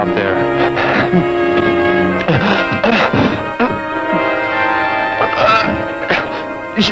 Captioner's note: gasping, moaning